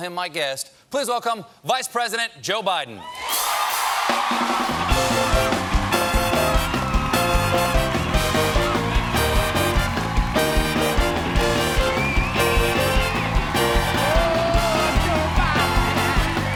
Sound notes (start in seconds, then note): 5.6 band playing; 5.6 cheers and applause